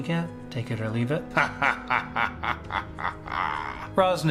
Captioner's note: laughs